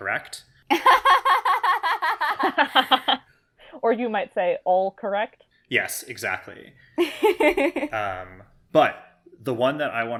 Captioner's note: laugh; laughs